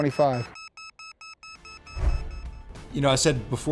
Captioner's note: alarm beeping